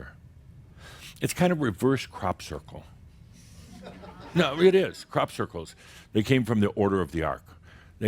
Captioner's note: a few chuckles